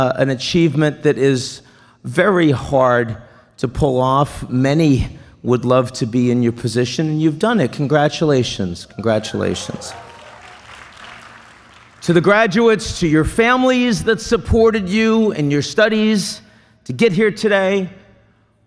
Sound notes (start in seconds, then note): 9.1 applause